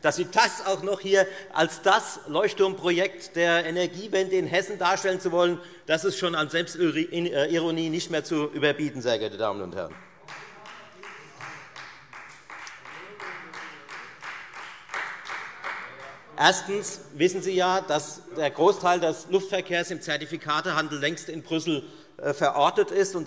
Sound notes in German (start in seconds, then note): 10.2 Beifall Freie Demokraten - Zurufe BÜNDNIS 90/DIE GRÜNEN